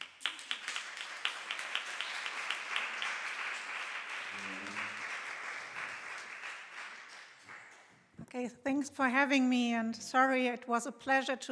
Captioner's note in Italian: Applauso